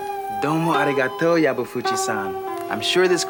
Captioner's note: LeVar speaking in Japanese